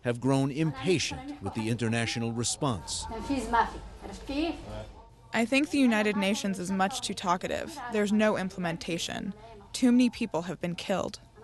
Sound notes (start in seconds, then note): 4.1 through translator